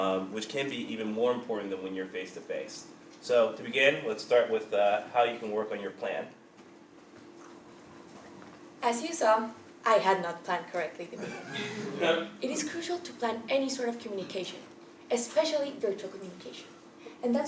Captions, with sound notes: which can be even more important than when you're face to face. So to begin, let's start with how you can work on your plan. >> As you saw, I had not planned correctly. >> [LAUGH] >> It is crucial to plan any sort of communication, especially virtual communication, and